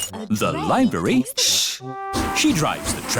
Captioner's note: chattering